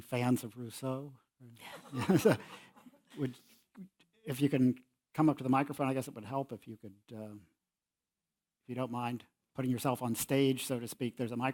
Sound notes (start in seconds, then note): 1.9 laugh